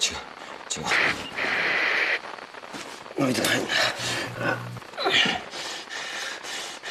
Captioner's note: static builds increasingly